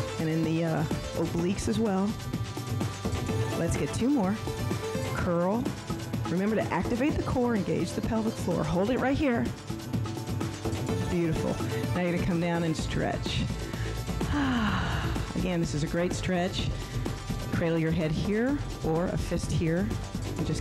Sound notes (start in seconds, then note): 14.2 sighs